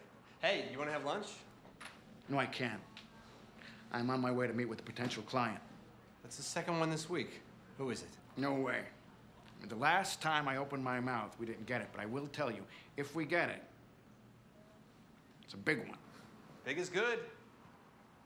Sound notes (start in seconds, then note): none